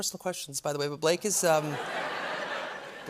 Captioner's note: laughter